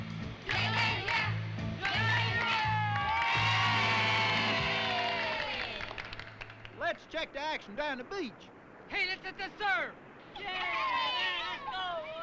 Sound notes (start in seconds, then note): 1.8 group cheers